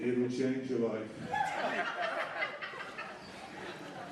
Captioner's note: laughter